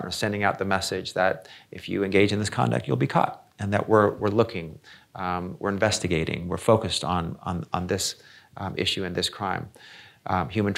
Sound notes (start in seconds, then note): none